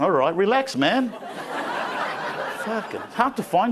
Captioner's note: crowd laughing